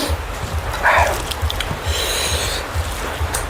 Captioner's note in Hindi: नाक से की जाने वाली आवाज़